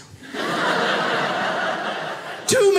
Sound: audience laughing

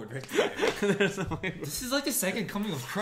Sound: laughs

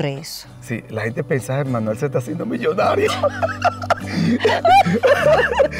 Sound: laughs

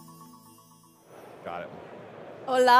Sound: crowd chattering

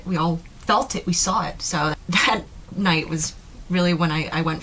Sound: laughs

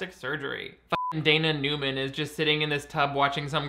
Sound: beep

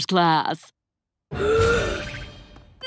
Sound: gasping

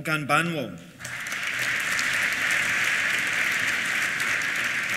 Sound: applause

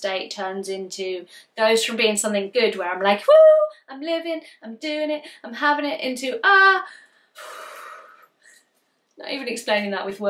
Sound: deep breath

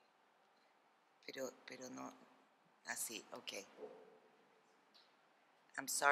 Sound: speaking spanish

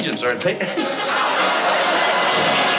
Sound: laughing

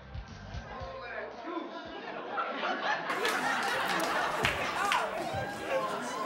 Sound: audience laughing and murmuring

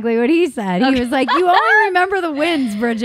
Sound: laughing

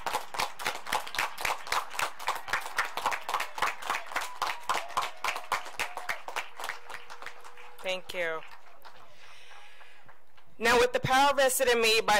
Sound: applause

